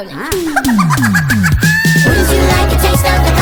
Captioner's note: Hermes laughing like he heard the funniest joke ever